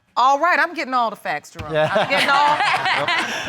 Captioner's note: laughing